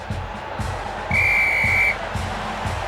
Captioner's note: blowing whistle